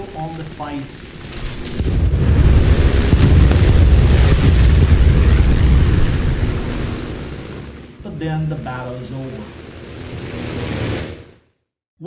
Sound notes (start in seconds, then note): 2.0 engines, machine guns, flying sounds